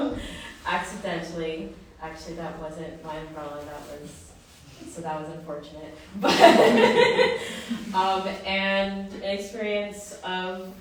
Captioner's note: laughter